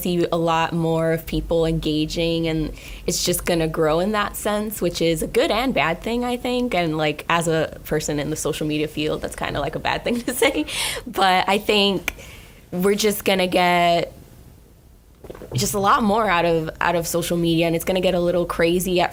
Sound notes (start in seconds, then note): 10.7 laughing